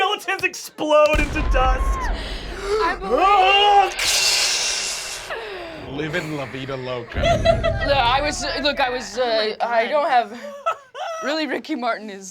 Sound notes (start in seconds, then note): 1.1 explosions